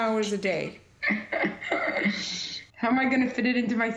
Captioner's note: laughter